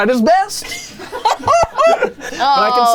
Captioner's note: everyone laughs